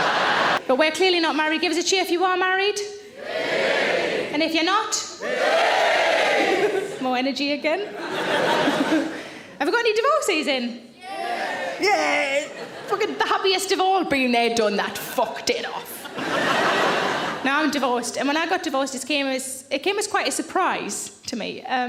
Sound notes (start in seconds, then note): 3.5 audience cheering; 6.3 laughing